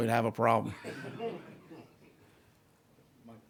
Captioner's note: laughing